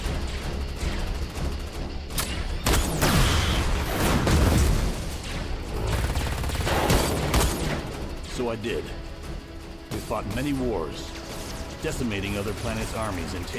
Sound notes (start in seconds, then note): 3.6 guns blasting